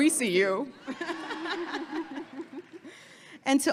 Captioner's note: all laughing